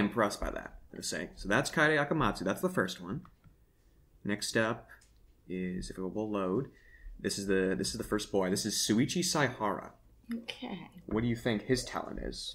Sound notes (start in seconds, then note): none